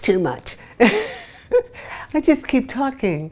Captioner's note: laughs